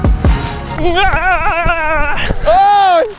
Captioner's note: screaming